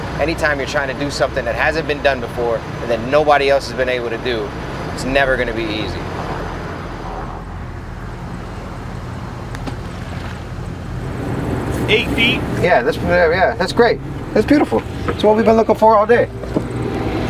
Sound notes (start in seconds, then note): 6.8 birds chirp; 6.8 sonar ball thunks